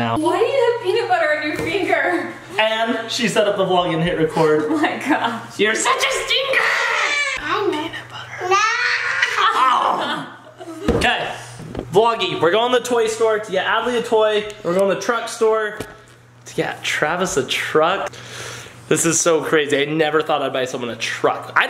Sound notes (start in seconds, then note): 8.1 whispers; 8.5 laughs